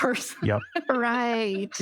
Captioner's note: laughter